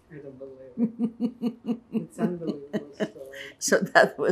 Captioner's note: laughing